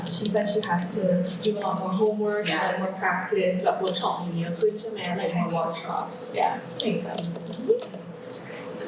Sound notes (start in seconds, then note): 3.6 clarifying in Thai